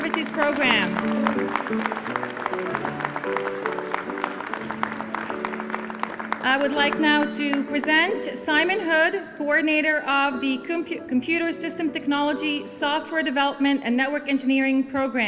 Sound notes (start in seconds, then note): 3.7 applause